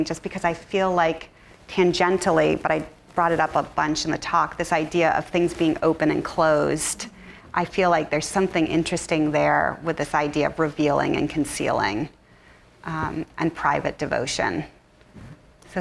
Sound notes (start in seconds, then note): none